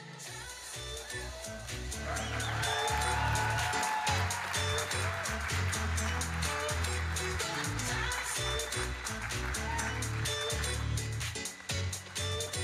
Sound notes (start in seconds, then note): 1.3 electronic dance music; 2.8 audience applauding